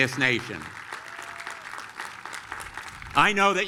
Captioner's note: applause